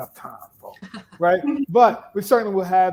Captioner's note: laughs